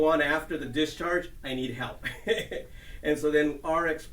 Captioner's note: chuckling